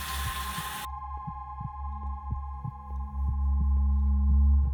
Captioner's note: heart beating